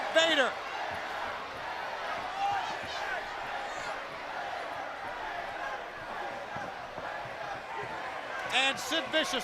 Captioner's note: crowd cheering